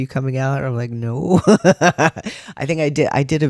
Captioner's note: laugh